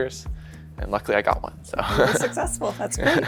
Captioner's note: chuckles